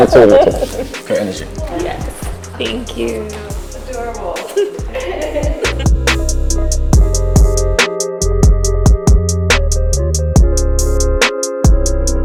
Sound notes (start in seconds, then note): 4.2 model laughs; 5.6 jazzy, lounge music